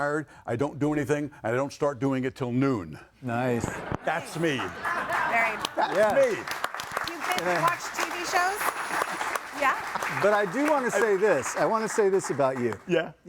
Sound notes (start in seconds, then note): 3.6 audience laughing; 9.8 crowd applauding